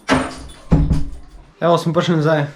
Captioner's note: door close